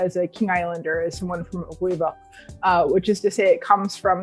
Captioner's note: non-english speech